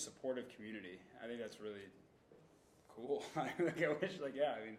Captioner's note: laughing